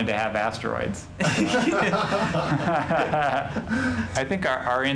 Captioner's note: laughing